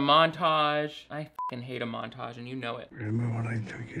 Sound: beep

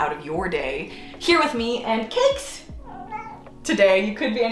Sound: cat meowing

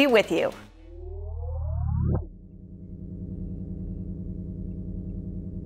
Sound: beeping sound effects

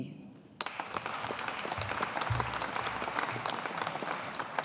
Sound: audience applauding

